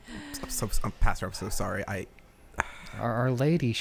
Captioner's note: sighing